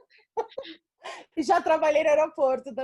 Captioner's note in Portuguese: risos